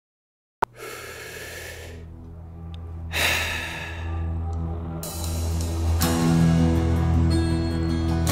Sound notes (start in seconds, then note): 0.7 exhales; 1.0 inhales